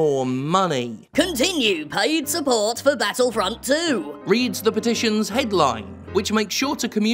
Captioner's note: digitized reading voice